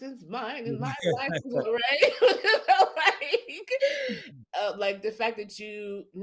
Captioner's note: laughs